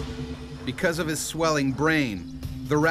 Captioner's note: voiceover